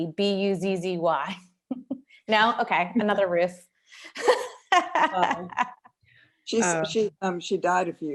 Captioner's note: laughter